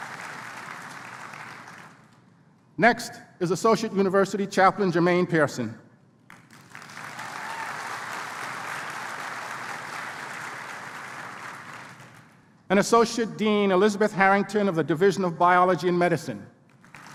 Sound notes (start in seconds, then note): 6.2 applause; 16.7 applause